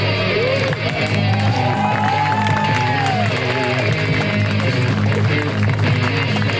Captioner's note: audience applauds; audience cheers